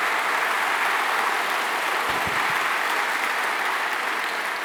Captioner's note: applause